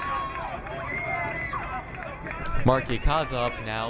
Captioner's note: crowd cheering